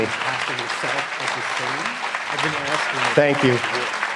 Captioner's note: applause